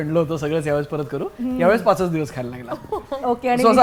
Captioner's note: chuckles